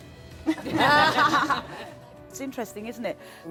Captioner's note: crowd laughs